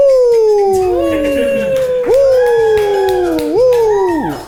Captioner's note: cast cheering